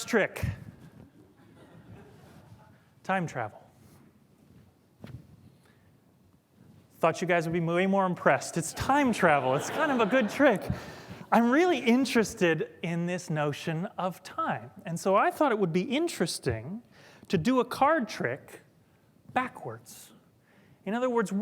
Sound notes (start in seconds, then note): 11.1 laughter